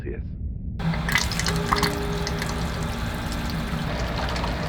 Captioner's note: water trickling